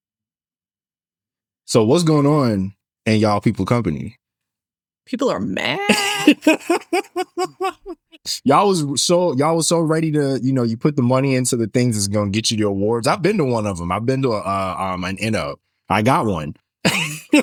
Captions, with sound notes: So what's going on in y'all people company? People are mad. (Laughing) Y'all was so ready to, you know, you put the money into the things that's gonna get you the awards. I've been to one of them, I've been to an end up. I got one.